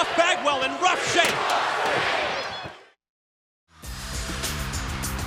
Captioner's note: crowd cheering